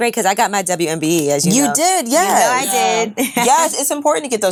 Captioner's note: chuckles